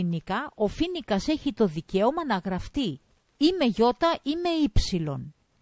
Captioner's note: in greek